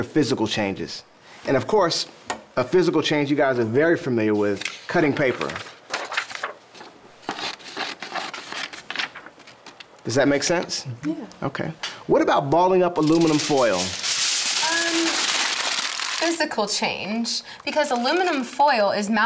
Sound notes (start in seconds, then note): 7.2 scissors cutting paper; 14.8 aluminum foil crinkling